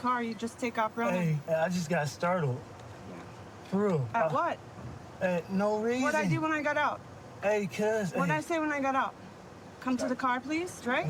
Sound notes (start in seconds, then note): none